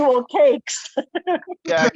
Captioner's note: laughs